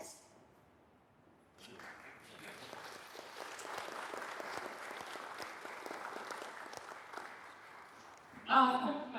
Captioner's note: applause